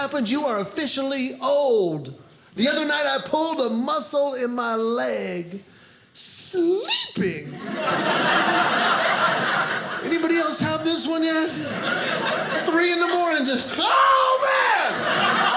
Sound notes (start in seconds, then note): 7.5 audience laughing